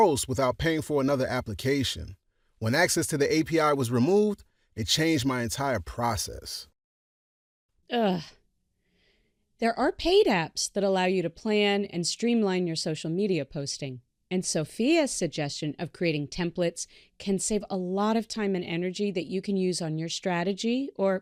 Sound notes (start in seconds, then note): none